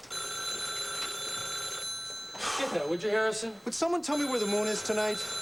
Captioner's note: phone rings